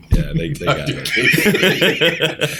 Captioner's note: laughter